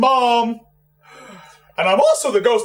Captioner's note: sighs